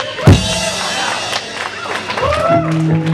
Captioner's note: applause